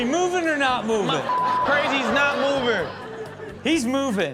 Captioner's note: beep